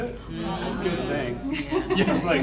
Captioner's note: panel muttering